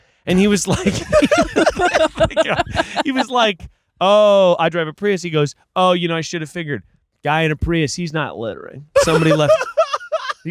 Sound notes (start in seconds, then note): 0.3 everyone laughing